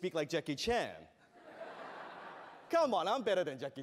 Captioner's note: laughter